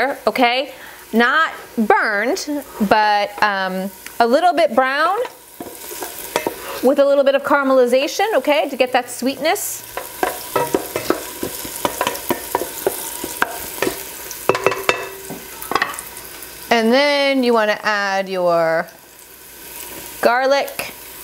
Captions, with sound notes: Not burned, but a little bit brown with a little bit of caramelization, okay? To get that sweetness. (oil bubbling) And then you wanna add your garlic,